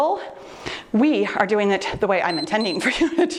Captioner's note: timer beeps